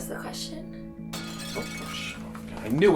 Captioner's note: glass breaks